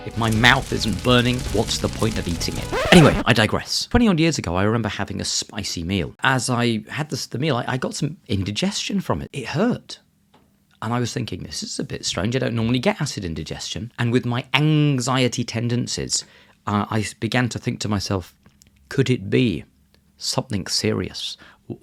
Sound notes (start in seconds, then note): 0.0 fire crackles; 2.7 record scratches